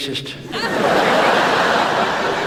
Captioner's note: audience laughs